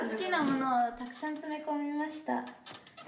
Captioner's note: speaking in foreign language